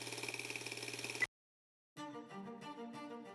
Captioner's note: film projector beeps; pensive orchestral music